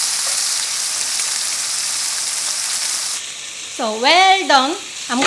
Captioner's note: sizzling